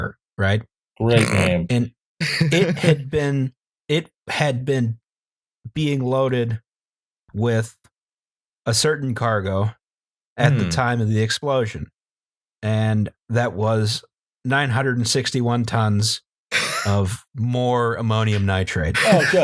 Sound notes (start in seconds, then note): 2.2 laughter